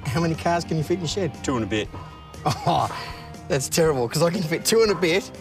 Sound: laughs

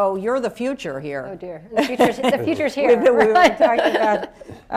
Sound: laughter; laughs

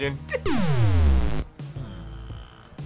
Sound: deep hum

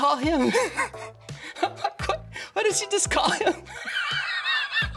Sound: laughs; laughs

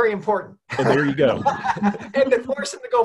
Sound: laughs

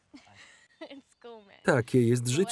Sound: laughs

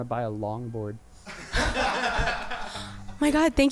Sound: band members laughing

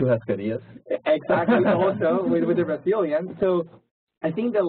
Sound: laugh

